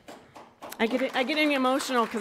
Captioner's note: audience applauds